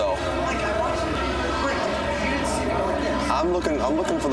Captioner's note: people chattering